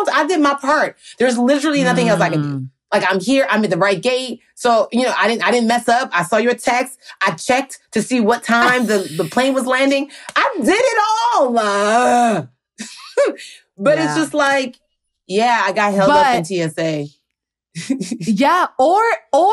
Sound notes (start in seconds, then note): 17.3 chuckles